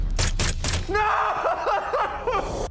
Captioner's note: shots firing